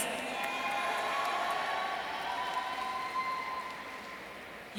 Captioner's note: audience cheering